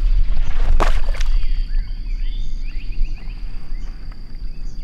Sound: water splashing

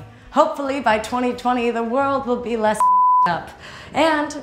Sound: beep

